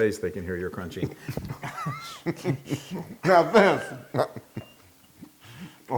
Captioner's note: laugh